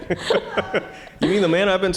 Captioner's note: audience chuckling